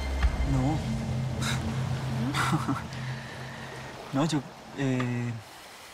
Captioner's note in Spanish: Ríe